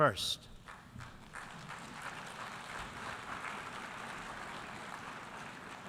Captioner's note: applause